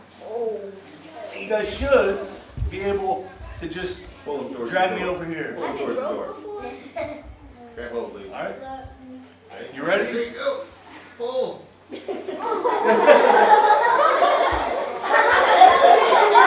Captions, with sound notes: You guys should be able to just drag me over here. You ready? - Okay, go. Pull. (children laughing)